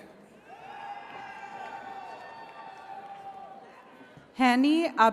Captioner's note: attendees cheering